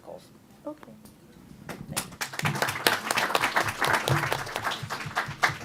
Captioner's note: applause